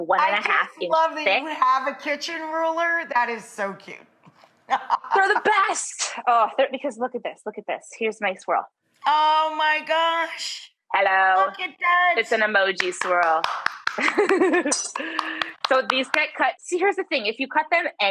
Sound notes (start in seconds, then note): 4.6 chuckles; 12.8 claps; 14.0 Molly laughs